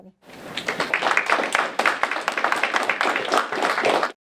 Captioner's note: applause